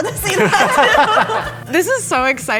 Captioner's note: everybody laughing